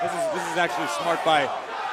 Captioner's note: crowd cheering